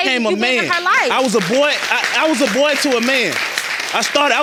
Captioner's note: audience applauding